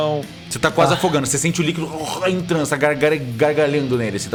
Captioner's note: argh